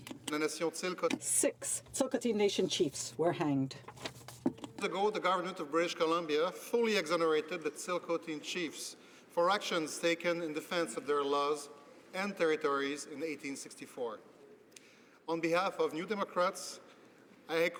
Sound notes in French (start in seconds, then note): 6.7 voix de l'interprte